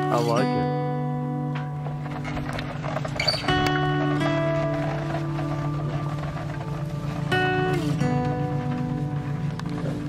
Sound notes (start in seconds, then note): 1.2 waggon wheels creaking; 6.2 relaxed guitar music